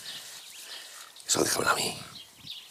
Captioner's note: whispering